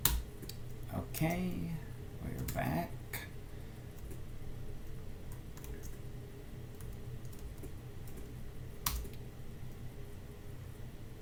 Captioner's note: typing